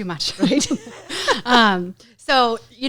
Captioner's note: laughs